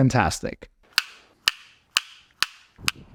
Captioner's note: screen snapping